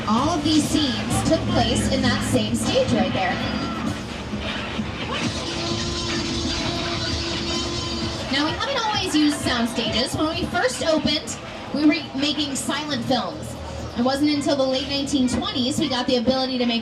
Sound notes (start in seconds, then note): 6.0 dinosaur roaring